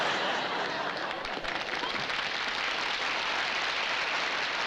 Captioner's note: applause